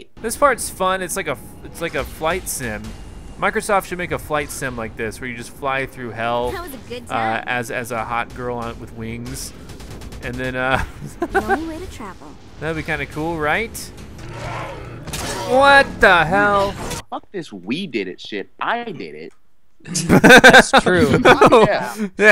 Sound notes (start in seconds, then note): 11.1 voiceover; 14.2 roar; 15.0 crash; 17.2 voiceover; 19.8 laughs; 21.0 voiceover